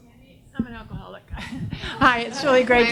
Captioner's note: audience laughs